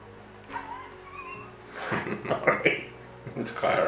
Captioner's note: chuckling